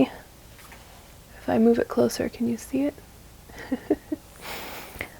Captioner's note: laughs softly